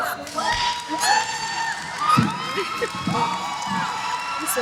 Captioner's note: cheering